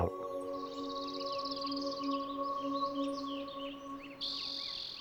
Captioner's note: birds singing